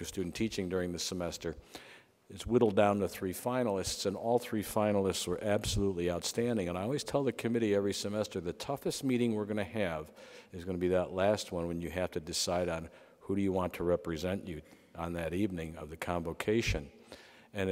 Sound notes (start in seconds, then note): none